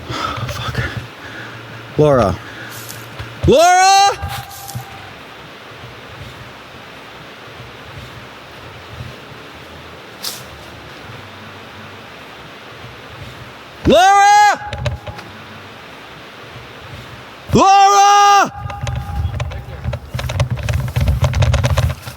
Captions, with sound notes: Oh, fuck. Laura! Laura! [screaming] Laura! Laura!